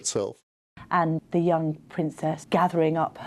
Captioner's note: voiceover